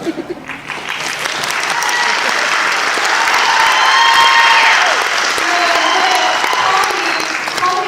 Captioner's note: audience laughter, clapping and cheering